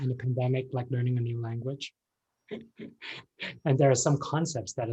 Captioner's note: laughs